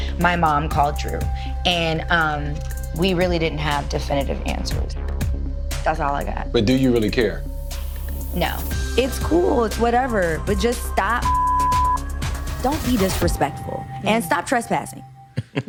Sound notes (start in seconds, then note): 10.5 beep